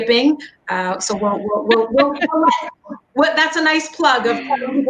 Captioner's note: laughing